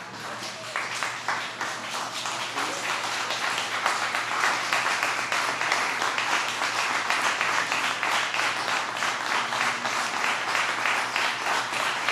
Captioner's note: applause